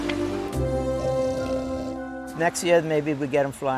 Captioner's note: pig snoring